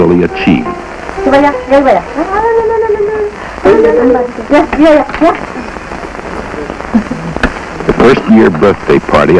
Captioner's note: family around a table speaking Korean